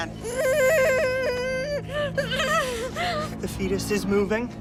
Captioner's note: groaning